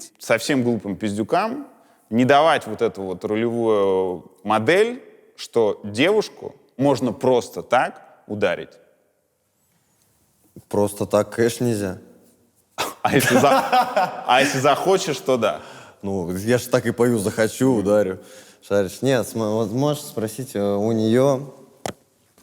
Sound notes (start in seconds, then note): 12.8 laughs